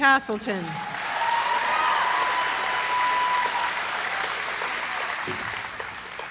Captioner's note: applause